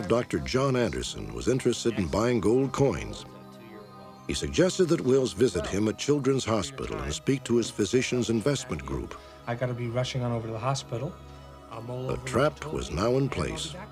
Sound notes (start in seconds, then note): 11.5 phone ringing